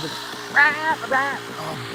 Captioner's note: engine revving